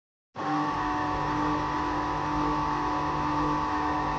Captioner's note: machine whirring